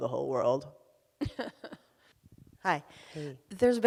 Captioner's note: laughs